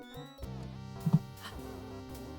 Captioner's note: gasp